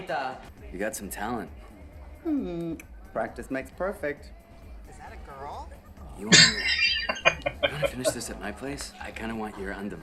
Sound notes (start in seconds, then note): 6.3 laughing